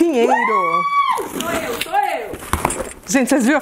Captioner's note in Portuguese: grita